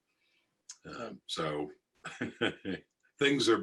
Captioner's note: laughs